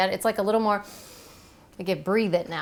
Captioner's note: sniffing